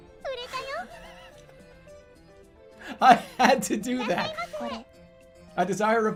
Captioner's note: giggling